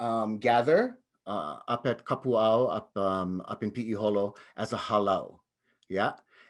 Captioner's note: speaks in native language